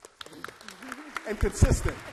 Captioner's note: all clap